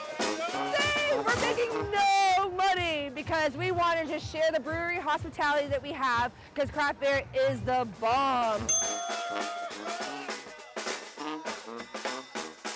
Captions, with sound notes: Yay, we're making no money because we wanted to share the brewery hospitality that we have, because craft beer is the bomb. (bell rings) (upbeat jazz music)